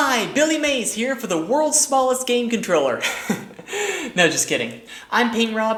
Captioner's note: laughs